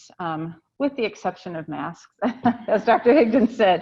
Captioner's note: laughs